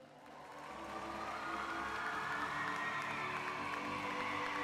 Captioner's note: crowd applauding